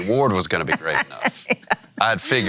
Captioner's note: laughing